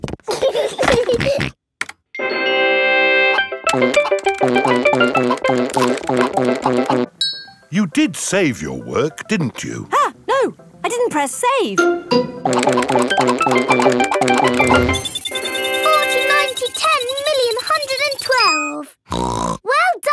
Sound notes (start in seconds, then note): 0.3 george giggles and snorts; 2.2 video game music plays; 15.1 beeping; 19.1 snorts